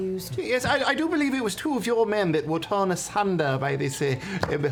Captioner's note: none